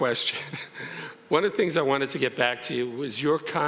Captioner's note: chuckles